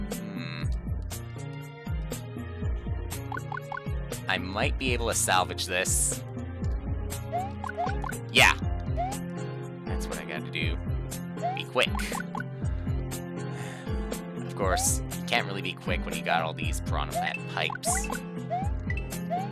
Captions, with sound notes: Hmm. I might be able to salvage this. Yeah. That's what I gotta do. Be quick. (*sigh*) Of course, you can't really be quick when you got all these Piranha Plant pipes.